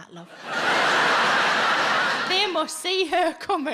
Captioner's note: audience laughs